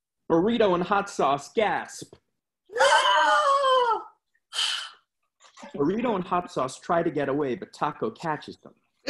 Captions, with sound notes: Burrito and Hot Sauce gasp. [dramatic gasping] Burrito and Hot Sauce try to get away, but Taco catches them.